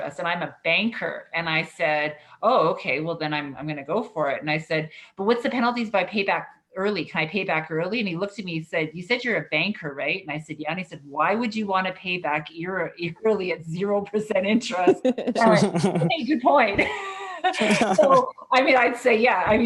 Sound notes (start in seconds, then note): 14.8 all laughing; 17.8 laughs